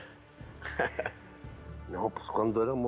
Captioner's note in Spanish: Risas